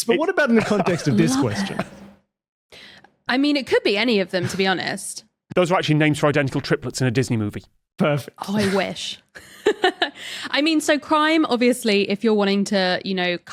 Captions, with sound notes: but what about in the context of this question? I mean, it could be any of them to be honest. Those are actually names for identical triplets in a Disney movie. Perfect. Oh, I wish. (giggles) I mean, so crime, obviously, if you're wanting to, you know,